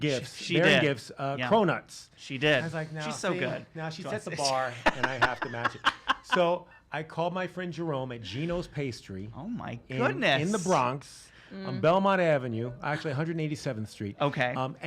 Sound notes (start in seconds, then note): 4.8 laughing